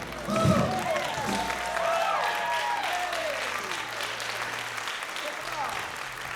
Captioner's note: applause, cheering